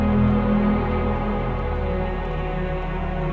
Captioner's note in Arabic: صوت خافت من طقطقة النار